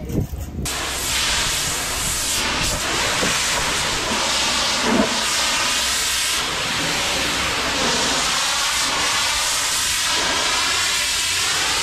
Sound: water sound

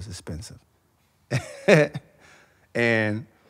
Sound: laughs

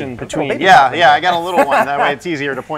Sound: laughs

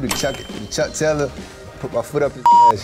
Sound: beep

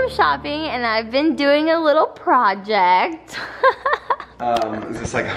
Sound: laughs

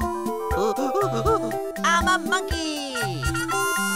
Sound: making monkey sounds

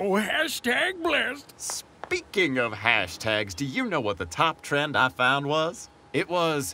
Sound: speaking

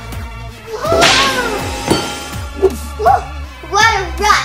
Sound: whip cracking

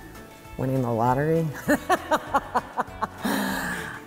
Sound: laughs

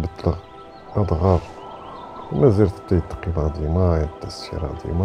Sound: wind howling

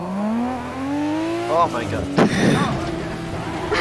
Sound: wheeze

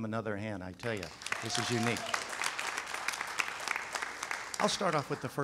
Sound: audience claps

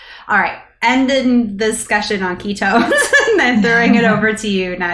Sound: laughter

